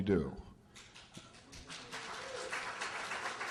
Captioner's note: applause